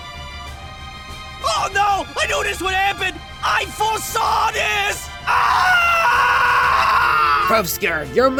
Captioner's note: screams